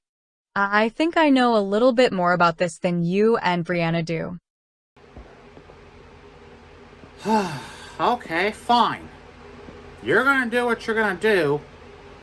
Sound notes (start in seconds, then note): 7.2 sighs